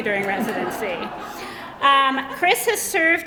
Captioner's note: laughter